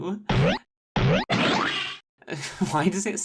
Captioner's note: boing, SQUELCH; boing